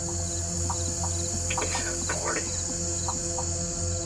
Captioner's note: whispering